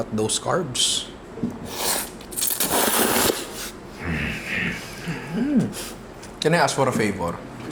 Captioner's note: slurps